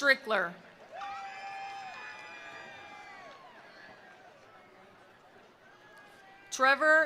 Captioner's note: attendees cheering; attendees applauding